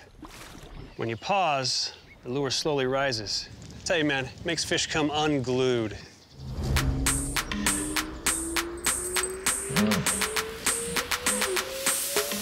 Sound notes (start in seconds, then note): 7.9 rising whistle tone